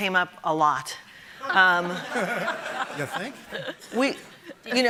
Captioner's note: audience laughing